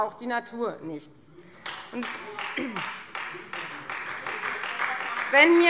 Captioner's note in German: Beifall Freie Demokraten